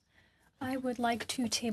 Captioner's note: speaking French